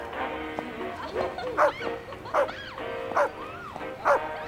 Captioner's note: woman laughing; dog barking